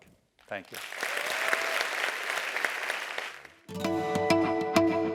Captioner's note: applause